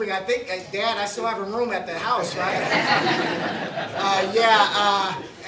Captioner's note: laughter